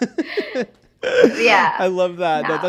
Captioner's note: person laughing